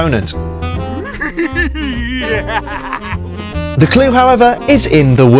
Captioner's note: silly man chuckling